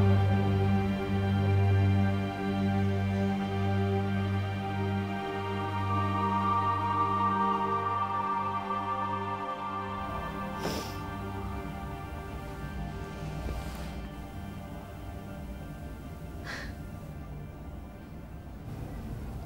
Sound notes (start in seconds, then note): 10.5 emma breathes in; 16.4 emma sighs